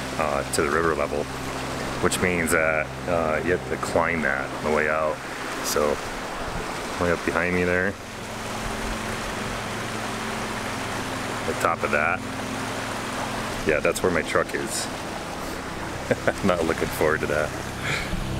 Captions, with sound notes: to the river level which means a you have to climb that on the way out so way up behind me there The top of that yeah that's where my truck is (laughing) I'm not looking forward to that